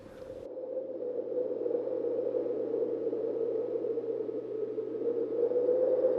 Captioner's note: wind whistles